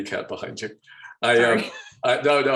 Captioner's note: laughing